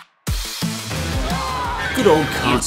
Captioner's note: screaming